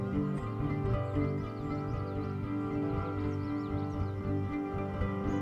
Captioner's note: birds chirping